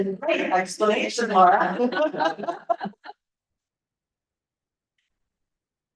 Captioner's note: laughter